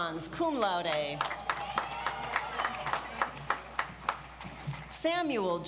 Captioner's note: audience applauds